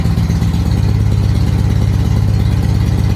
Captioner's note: engine picks up speed